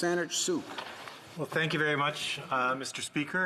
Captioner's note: speaking French